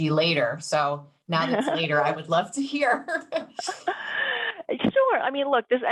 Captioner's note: laughs